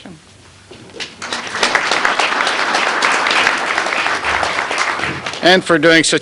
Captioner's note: applause